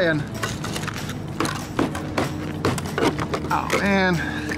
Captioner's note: chipping